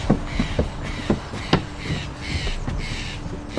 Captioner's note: crows caw